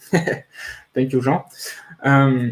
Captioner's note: laughs